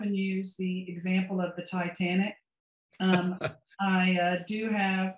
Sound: laughs

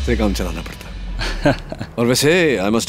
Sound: laughs

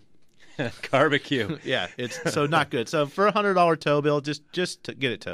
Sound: laughs

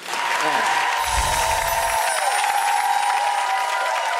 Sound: chimes ringing; audience cheering

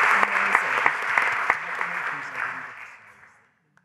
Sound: applause

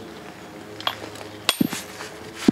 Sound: chiselling

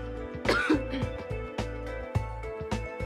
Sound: coughs

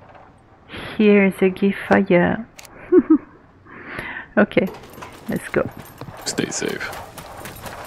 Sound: laughs

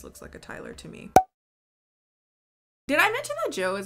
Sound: graphic popping

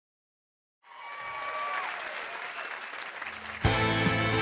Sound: audience cheering

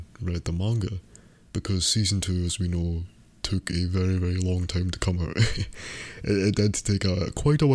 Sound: laughs

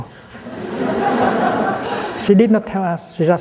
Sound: laughter

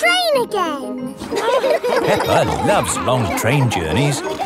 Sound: laughing

